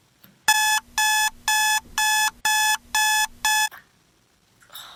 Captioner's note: 𝘢𝘭𝘢𝘳𝘮 𝘤𝘭𝘰𝘤𝘬